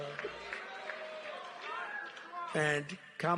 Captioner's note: Tepuk tangan